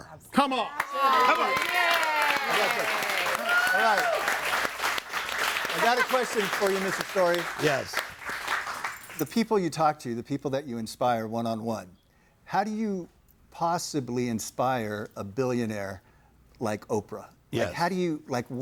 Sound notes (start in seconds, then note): 0.7 audience applauding